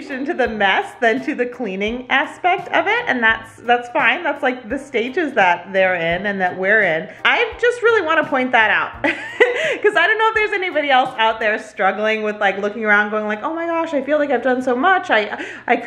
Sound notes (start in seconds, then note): 9.3 laughs